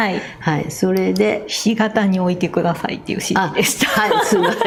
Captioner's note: laughs